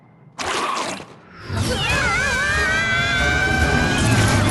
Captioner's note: screams